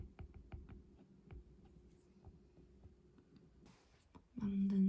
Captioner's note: voice alert